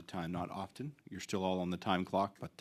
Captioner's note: speaking French